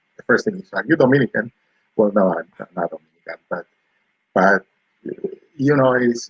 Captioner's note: speaking spanish